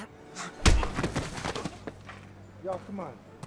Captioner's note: hand thudding